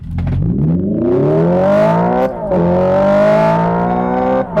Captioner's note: car accelerates